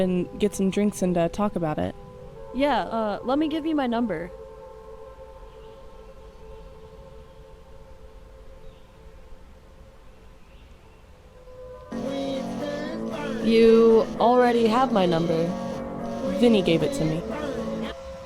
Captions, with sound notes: and get some drinks and talk about it. - Yeah, let me give you my number. (phone rings) You already have my number? - Vinny gave it to me.